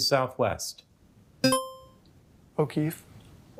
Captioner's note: buzzer chime